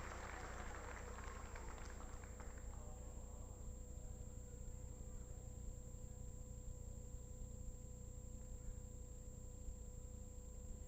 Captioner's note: applause